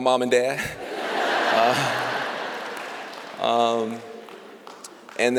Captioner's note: laughter